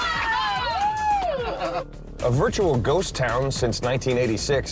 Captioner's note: cheering